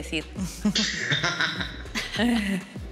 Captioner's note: laughter